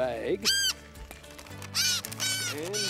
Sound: squawking

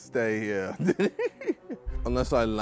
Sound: laughs

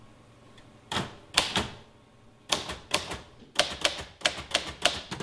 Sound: typewriter keys clacking

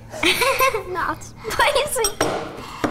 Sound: laughing

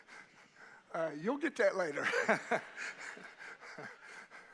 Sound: laughing

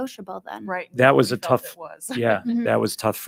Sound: laughs

